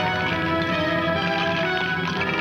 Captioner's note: bones rattling